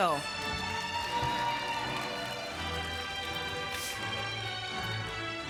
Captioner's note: applause